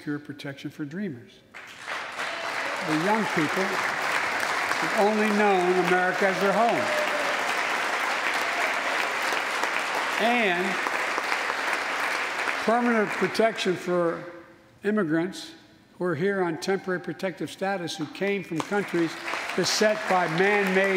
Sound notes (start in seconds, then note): 6.3 applause